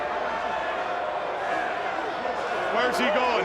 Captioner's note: crowd chattering